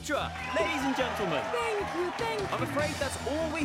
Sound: crowd cheering

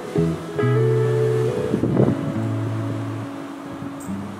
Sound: wind blowing

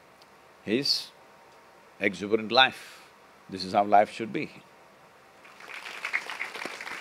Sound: applause

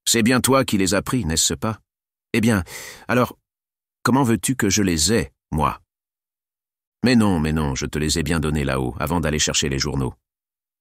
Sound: French

